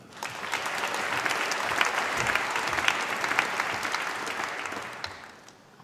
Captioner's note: applause